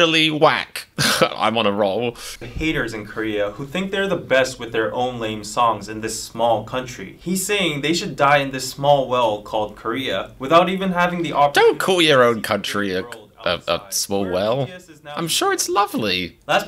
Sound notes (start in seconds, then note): 1.0 snickers